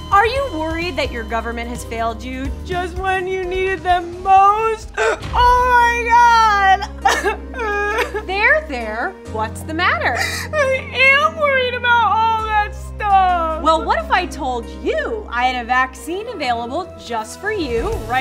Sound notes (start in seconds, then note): 7.1 sobbing